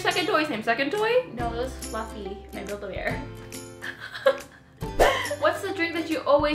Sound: laughs

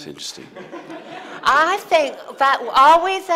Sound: audience laughing

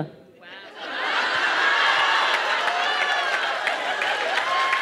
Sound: laughter

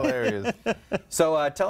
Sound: laughter

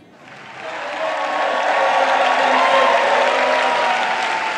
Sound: audience clapping

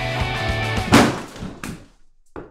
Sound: SFX: crash

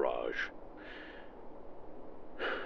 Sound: sigh

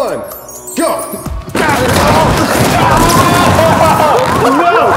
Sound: sounds of cardboard boxes breaking and guys groaning

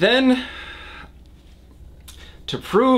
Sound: sighs

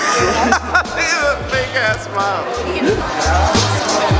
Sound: laughter; jazzy music

